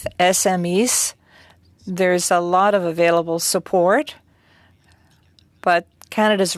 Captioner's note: speaking French